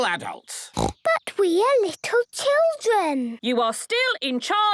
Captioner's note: snorting